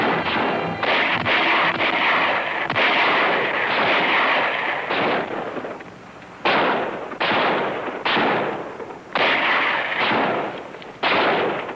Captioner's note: gun shots